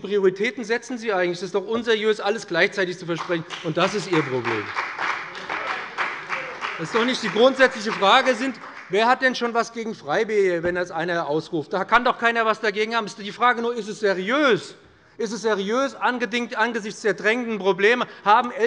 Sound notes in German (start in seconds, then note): 4.9 Beifall bei dem BÜNDNIS 90/DIE GRÜNEN und der CDU